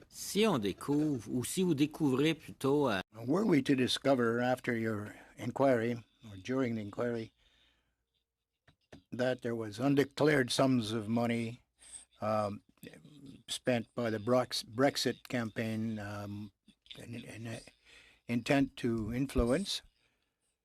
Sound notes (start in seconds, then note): 9.3 speaking French